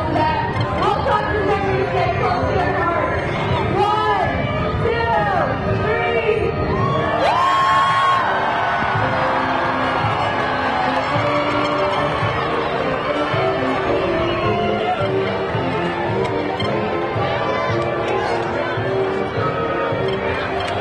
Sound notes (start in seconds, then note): 6.8 audience cheering; 10.9 lively triumphant music continues